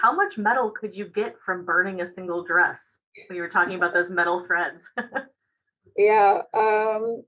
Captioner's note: laughter